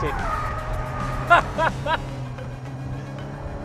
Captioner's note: laughs